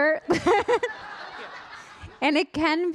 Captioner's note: audience laughing